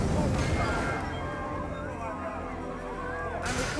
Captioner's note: crowd exclaiming